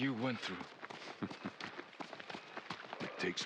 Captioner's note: laughs